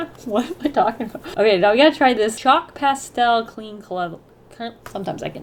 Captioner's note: trips on words